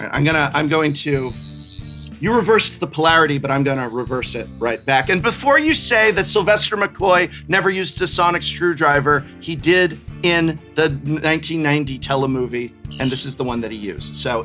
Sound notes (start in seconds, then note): 0.8 Sonic Screwdriver continues